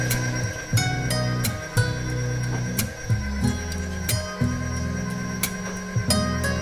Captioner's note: relaxing music continues; mixer continues whirring